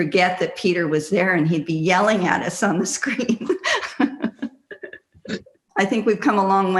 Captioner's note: laughs